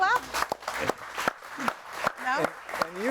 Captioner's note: audience applauding